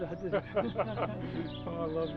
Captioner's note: laughing